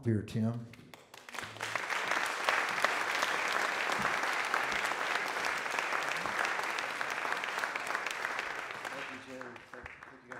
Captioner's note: audience Applause